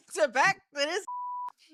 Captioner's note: beep